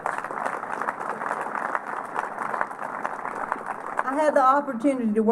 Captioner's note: applause